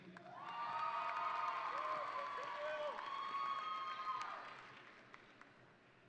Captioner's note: audience cheering and applauding